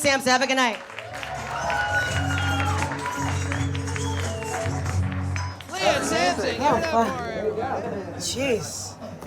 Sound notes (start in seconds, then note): 0.6 audience applauds; 0.8 audience cheers